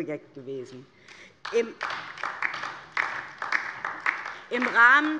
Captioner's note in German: Beifall DIE LINKE